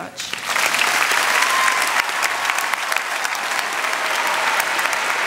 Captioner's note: applause, cheering